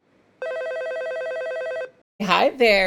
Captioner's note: phone ringing